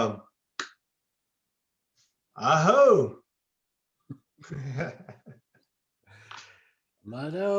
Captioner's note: exclaims